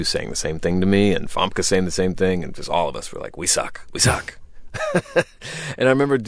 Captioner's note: laughter